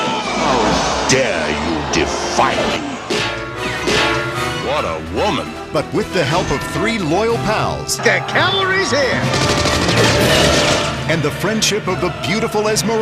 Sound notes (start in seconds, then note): 9.2 gunfire Sounds